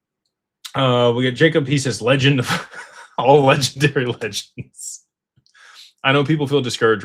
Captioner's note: laughter